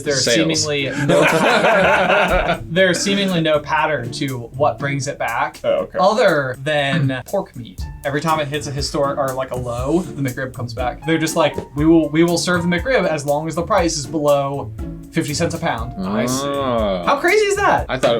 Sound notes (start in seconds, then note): 0.9 laughter